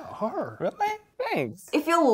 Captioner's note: none